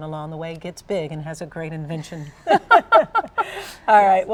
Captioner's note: laughing